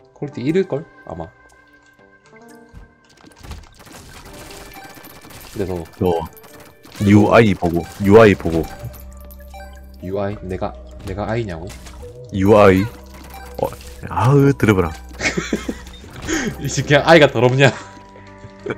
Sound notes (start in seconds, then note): 15.2 laughs